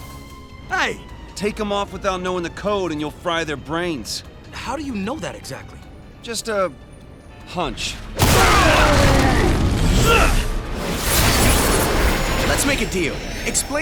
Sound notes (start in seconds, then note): 8.2 crashing; 10.2 wincing